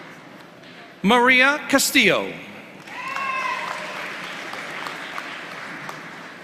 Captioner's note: applause